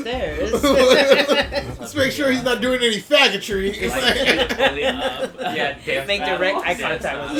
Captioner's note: laughs